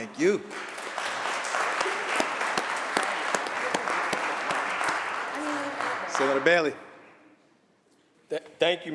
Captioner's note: applause